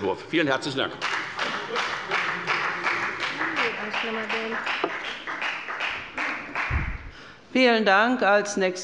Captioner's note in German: Beifall bei der FDP